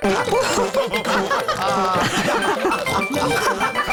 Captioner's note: all laughing